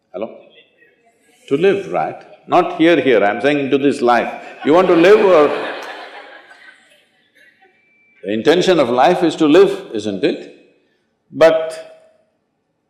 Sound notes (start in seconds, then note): 3.7 laughter